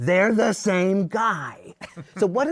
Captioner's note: laughter